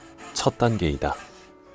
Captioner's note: sawing sound